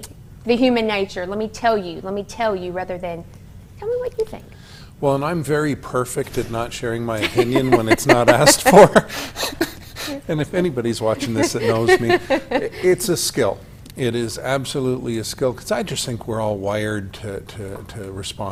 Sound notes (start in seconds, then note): 13.7 laughter